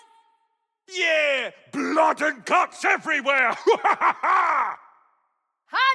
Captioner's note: laugh